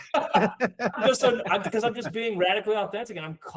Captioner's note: laughing